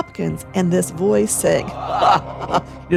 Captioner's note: laughing